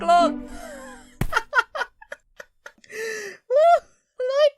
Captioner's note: kumquat wheezes; kumquat laughs